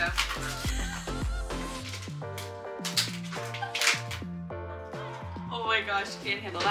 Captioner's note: upbeat music; laughing